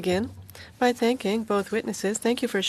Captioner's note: speaking French